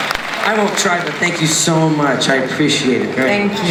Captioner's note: voiceover